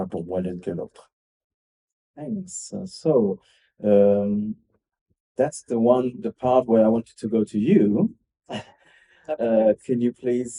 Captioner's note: laughs